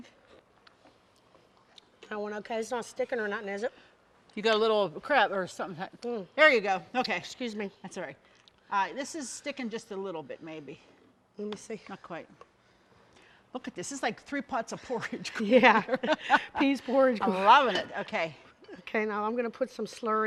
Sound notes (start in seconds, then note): 15.6 both laughing